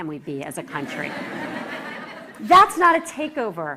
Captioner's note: laughter